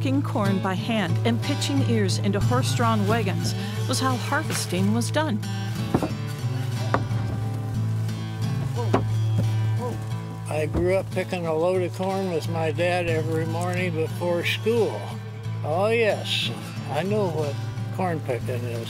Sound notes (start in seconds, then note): 6.2 guitar music; 8.5 bangboard thumps